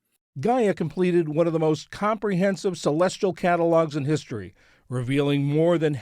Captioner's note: voice-over